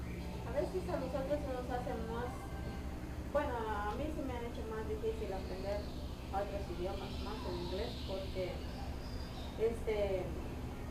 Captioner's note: spanish